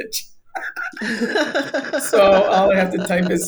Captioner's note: both laughing